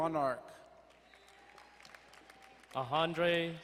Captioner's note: crowd cheering and applauding